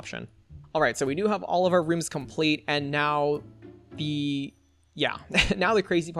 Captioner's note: laughs